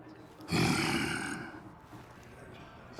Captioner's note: growls